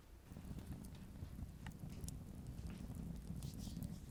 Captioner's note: fire crackling